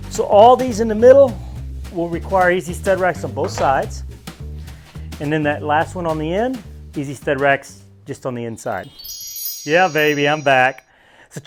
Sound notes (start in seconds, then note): 8.8 chimes